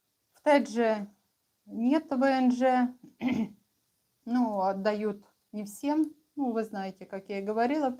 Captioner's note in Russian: откашливается